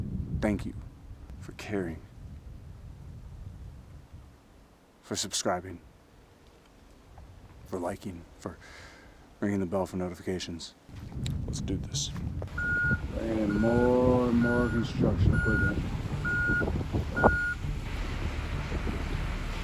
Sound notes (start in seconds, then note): 12.5 beeping